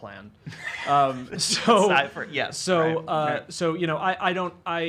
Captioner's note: laughing